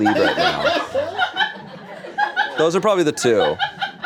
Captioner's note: crew laughs